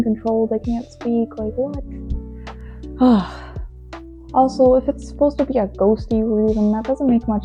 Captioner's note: another huge sigh